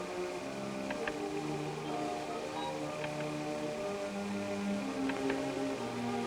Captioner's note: slides clicking